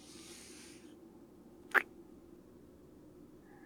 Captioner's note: kiss